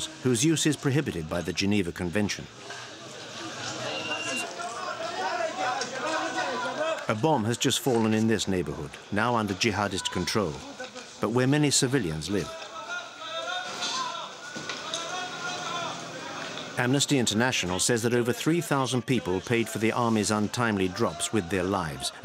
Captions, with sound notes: whose use is prohibited by the Geneva Convention. A bomb has fallen in this neighborhood, now under jihadist control, but where many civilians live. [Arabic spoken audio] Amnesty International says that over 3,000 people paid for the army's untimely drops with their lives,